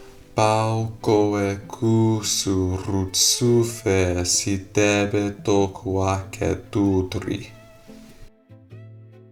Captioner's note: speaking in reconstructed seriki